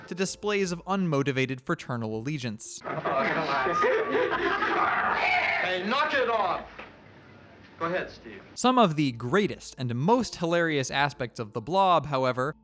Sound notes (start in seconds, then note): 2.8 laughter